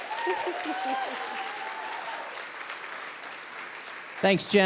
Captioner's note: audience clapping